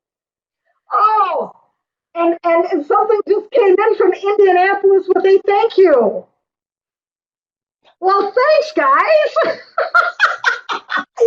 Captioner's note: laughter